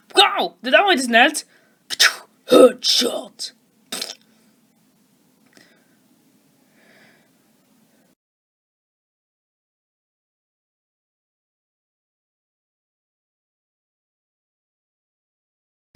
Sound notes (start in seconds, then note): 6.6 breathing